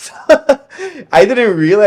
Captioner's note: laughing